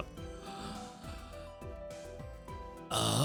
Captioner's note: gasps